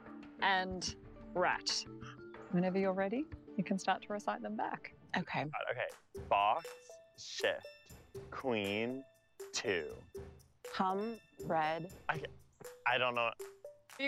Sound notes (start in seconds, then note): none